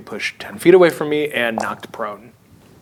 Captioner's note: dice rolling